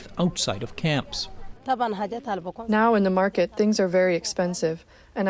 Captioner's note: through translator